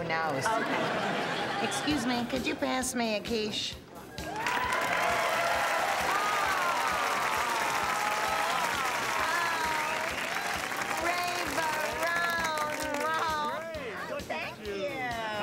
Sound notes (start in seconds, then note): 4.3 applause